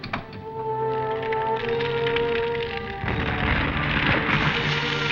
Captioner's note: suspenseful music; crackling; booming